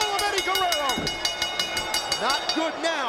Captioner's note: bell dinging